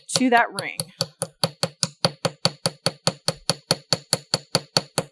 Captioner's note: light hammering